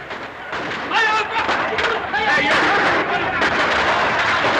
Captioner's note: shouting